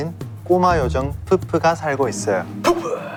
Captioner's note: laughing